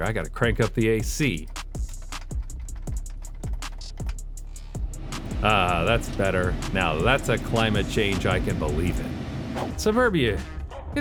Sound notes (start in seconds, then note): 1.4 frantically tapping